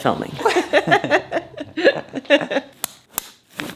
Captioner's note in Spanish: los dos ríen; cremalleras cerrándose